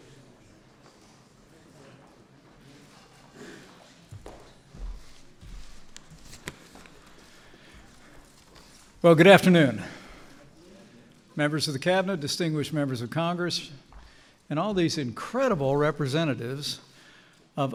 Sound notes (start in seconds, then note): none